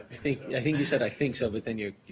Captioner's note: laughter